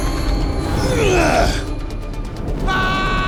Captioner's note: grunting